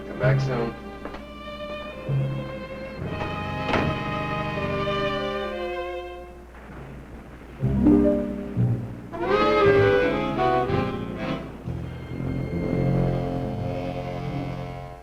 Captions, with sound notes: Come back soon. (waves crashing) (dramatic music) (tense music)